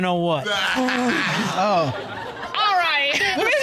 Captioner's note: all laughing